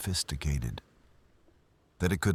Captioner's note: wind Blowing